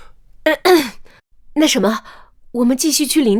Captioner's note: cough cough